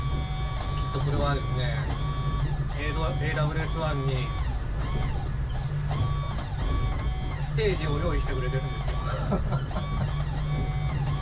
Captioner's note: laughs